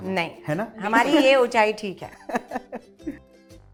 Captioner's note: chuckles